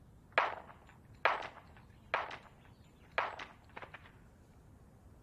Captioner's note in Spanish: Disparos